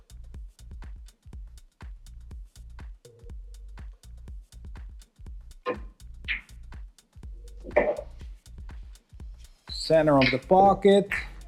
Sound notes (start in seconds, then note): 5.7 billiard balls clanging